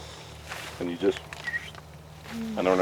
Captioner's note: whistles